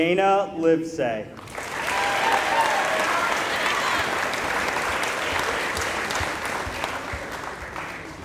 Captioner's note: applause